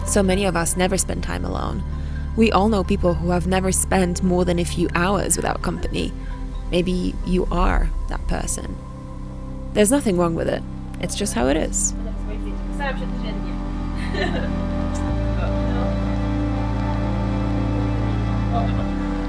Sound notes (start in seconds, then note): 12.6 speaks in a foreign language